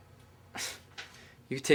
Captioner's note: Dillon sighs